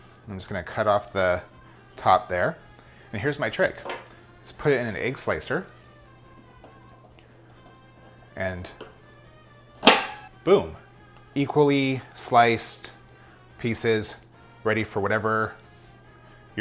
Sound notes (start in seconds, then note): 9.8 slicer clicks